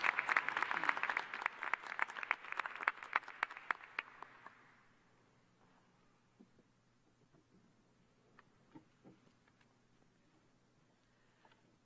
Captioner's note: applause